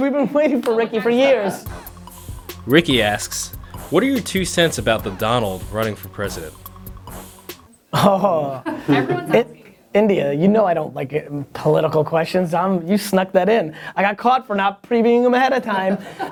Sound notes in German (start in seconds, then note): 2.1 Voice-over